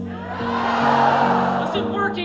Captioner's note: crowd